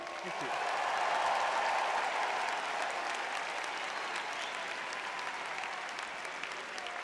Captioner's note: audience cheering